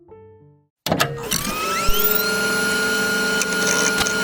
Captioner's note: machine whirring